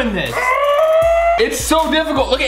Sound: screeches

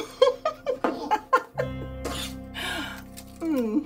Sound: woman laughing

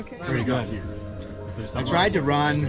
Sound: crowd chattering

